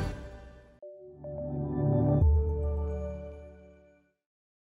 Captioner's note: electronic chime